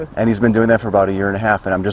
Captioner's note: laughs